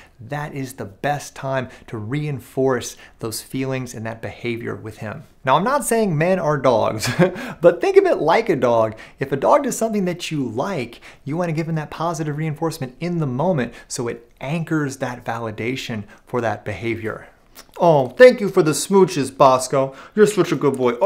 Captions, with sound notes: That is the best time to reinforce those feelings and that behavior with him. Now, I'm not saying men are dogs, [chuckles] but think of it like a dog. If a dog does something that you like, you want to give him that positive reinforcement in the moment so it anchors that validation for that behavior. "Oh, thank you for the smooches, Bosco. You're such a good boy.